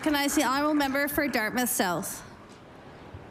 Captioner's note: applause